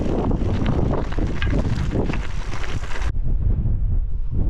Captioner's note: very strong wind